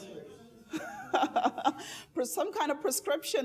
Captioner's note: laughing